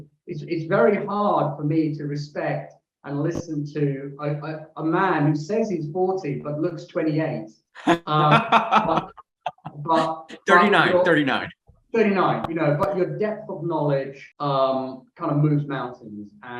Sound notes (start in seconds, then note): 7.8 chuckles